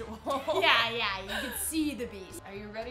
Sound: both laughing

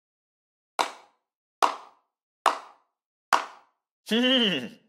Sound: slow claps

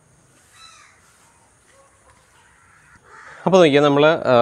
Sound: birds chirping

